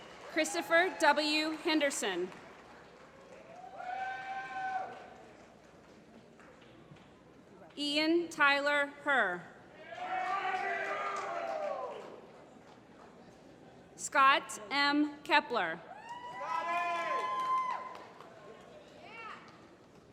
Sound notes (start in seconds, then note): 0.0 applause; 9.9 applause; 15.9 applause